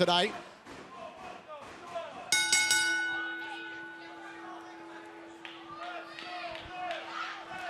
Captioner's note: bell; fans chanting